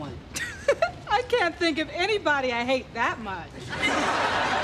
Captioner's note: chuckling